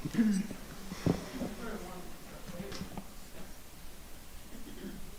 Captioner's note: audience chattering